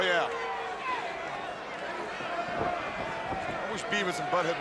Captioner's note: crowd chatter